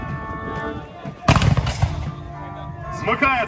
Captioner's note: sound of a shot